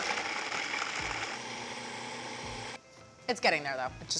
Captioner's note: whirring